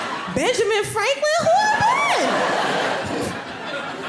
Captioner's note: laughing